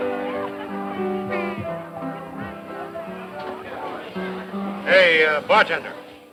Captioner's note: cowboys shouting; boisterous patrons